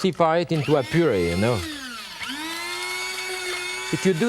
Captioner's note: grinder whirring